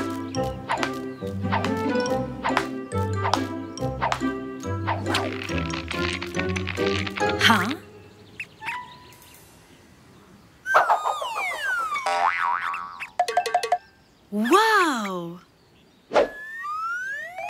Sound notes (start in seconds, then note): 1.5 rope smacking